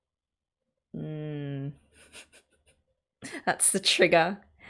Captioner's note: laughs